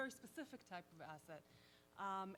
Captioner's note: none